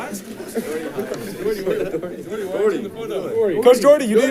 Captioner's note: crowd chatting; group laughing